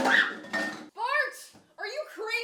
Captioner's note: screams